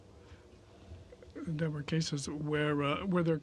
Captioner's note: speaking French